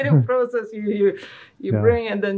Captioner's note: laughing